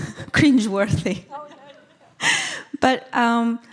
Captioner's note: laughing